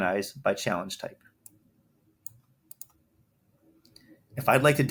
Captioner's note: mouse clicks